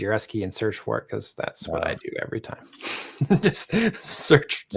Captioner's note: chuckles